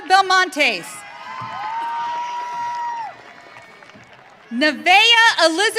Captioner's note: audience cheering